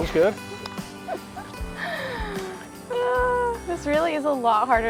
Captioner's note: laughs